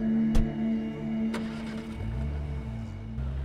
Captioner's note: Engine starts